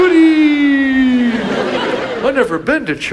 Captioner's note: audience laughs